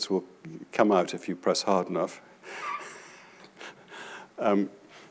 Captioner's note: laughs